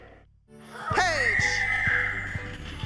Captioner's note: bright music playing; shrieking